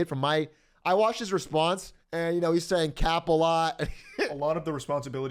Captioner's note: laughter